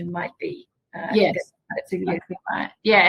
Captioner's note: microphone fading